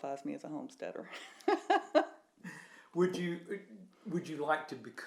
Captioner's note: laughs